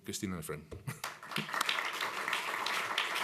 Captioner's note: applause